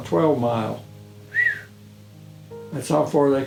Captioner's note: whistling